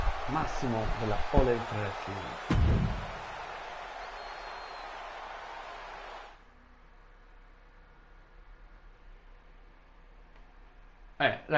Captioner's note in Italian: Applauso